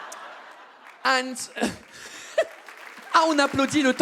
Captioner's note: audience claps